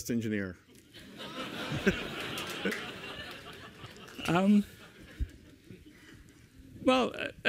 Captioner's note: laughter